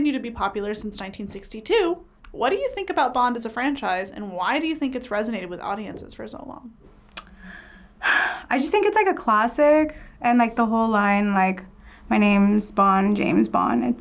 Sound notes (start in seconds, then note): 7.2 sighs